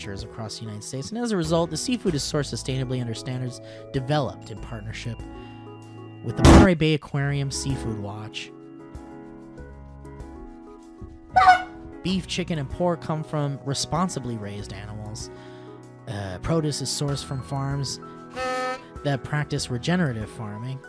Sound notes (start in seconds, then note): 4.5 ding; 11.3 honk